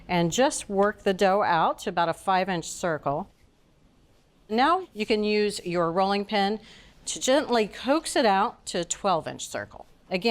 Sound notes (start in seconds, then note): none